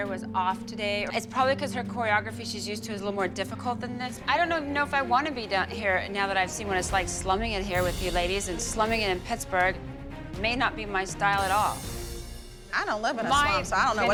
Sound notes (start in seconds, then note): none